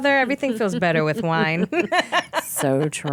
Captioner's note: laughing